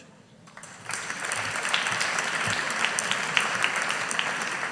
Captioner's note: audience applauding